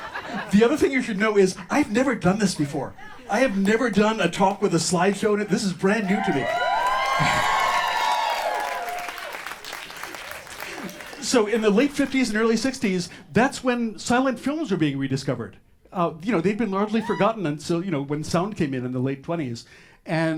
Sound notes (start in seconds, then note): 6.8 audience cheers